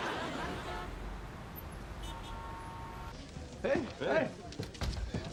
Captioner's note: audience laughs; car horns honking